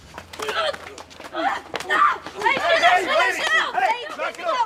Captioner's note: groaning